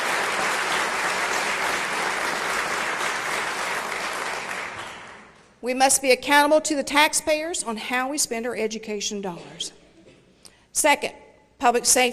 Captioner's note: applause